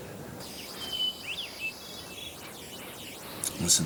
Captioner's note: birds chirping